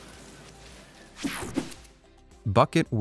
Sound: air whooshing

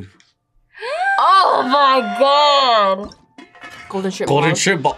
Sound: gasps

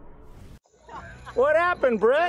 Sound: laughter

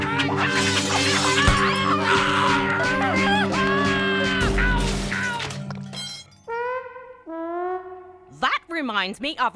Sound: yelling and smashing

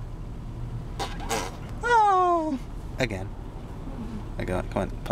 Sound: blows raspberry

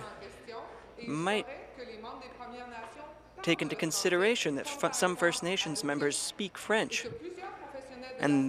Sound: speaking in French

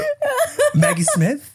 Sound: laughing

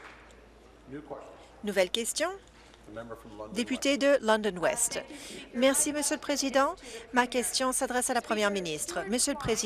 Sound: applause

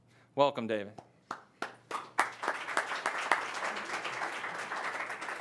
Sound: audience applauds

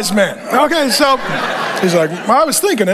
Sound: congregation laughing

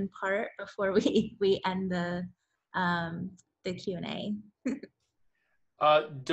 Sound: laughs

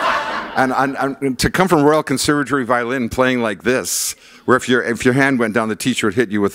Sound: laughter

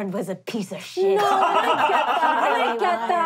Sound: laughing

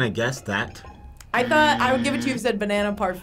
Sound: buzzer buzzing

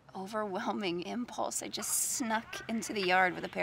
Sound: baby monitor crackles

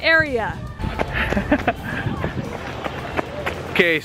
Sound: laughing

